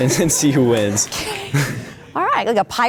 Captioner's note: laughing